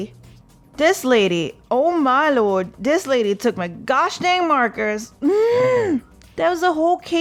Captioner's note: angry noises